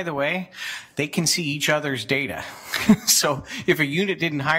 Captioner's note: laughs